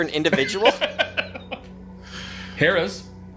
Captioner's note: laughing